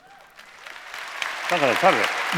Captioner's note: applause; non-english speech